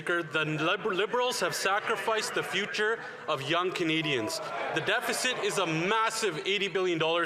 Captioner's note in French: voix de l'interprète